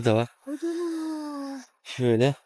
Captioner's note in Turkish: iç çeker